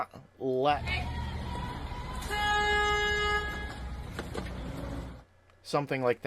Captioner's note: horn Honk